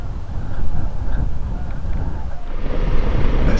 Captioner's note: wind